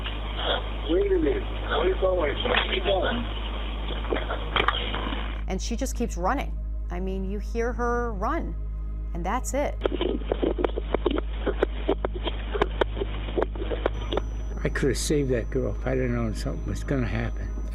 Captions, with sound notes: And she just keeps running. I mean, you hear her run, and that's it. [running footsteps] I could have saved that girl if I'd have known something was going to happen.